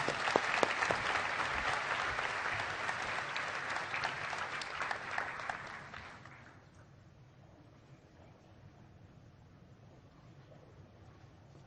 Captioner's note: applause